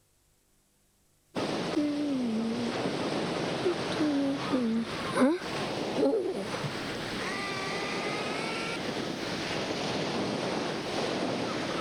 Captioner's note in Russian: возгласы; шум моря